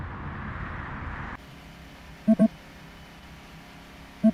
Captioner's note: beeping from tracker